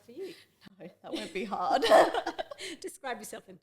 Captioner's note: both laugh